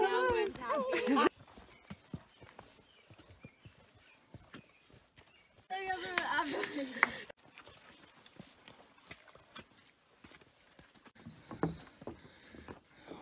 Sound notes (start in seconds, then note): 6.5 clapping